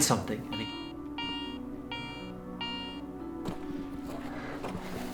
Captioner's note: metal detector beeping